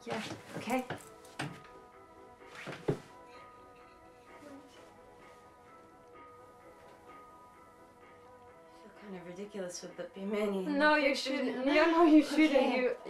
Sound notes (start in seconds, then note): 1.4 gentle instrumental music; 10.7 murmuring